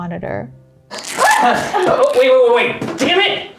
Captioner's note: fabric rips